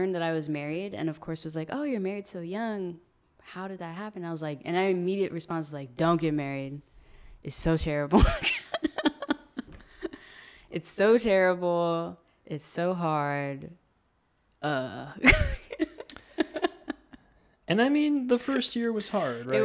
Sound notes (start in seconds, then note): 8.2 laughs; 15.2 laughs